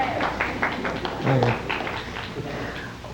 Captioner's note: audience laughing